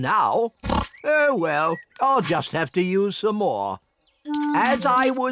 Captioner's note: oinks